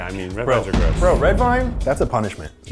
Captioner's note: cracker exploding